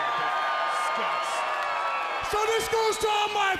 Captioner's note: crowd cheering